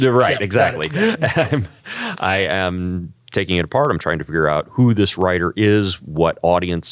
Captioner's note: laugh